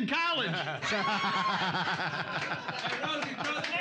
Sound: laughing; cheers and applause

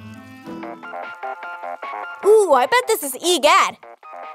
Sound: funky ringtone returns

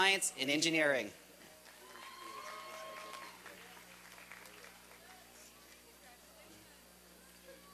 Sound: applause and cheering

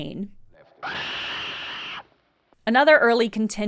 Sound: an EXTREMELY loud, high-pitched bird screech

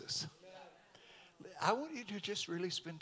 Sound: congregation amens

